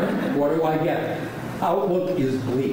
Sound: laughing

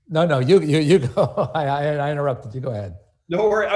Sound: laughs

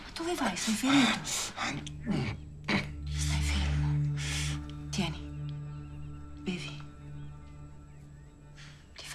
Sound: continues speaking Italian

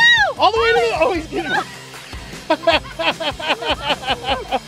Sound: laughing

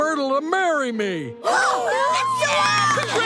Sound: cheering

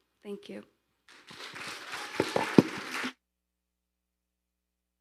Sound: audience applauding

